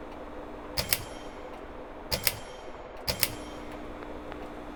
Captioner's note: loud buzzing noises; other ceiling fan making noises; pull chain noises; loud buzzing noises; other ceiling fan making noises